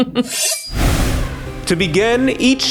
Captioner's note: knives shing